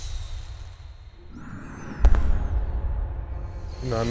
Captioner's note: deep breathing